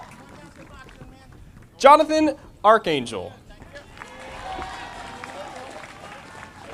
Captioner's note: audience applauding